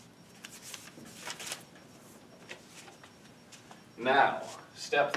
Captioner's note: paper crinkles